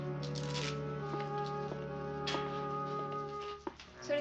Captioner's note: footsteps approaching